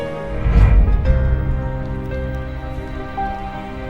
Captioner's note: rustling